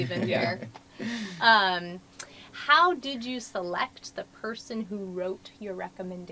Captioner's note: laugh